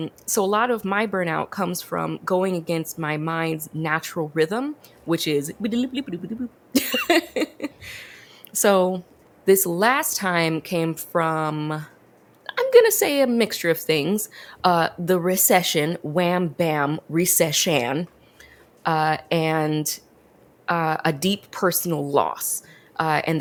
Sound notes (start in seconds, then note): 5.7 speaks jibberish; 6.8 laughs